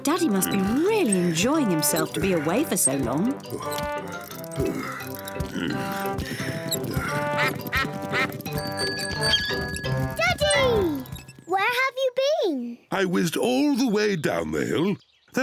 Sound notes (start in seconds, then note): 3.7 groaning; 7.5 ducks quack; 8.3 bell rings